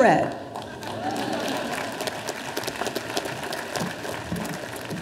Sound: audience applauding

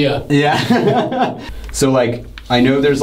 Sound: laughs

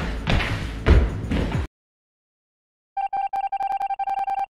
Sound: stomps feet

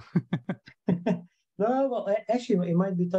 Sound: both chuckling

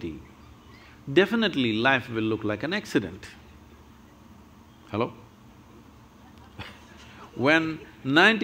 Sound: laughs

